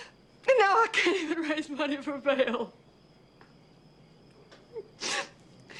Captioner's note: sobbing